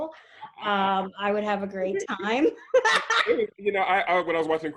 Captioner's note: laughs